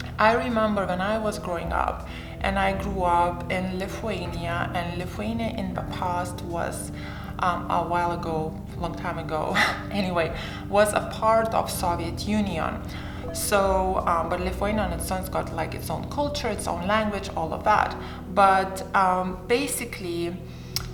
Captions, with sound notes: I remember when I was growing up, and I grew up in Lithuania. And Lithuania in the past was a while ago, long time ago, (chuckles) anyway, was a part of Soviet Union. But Lithuania on its own got its own culture, its own language, all of that. But basically...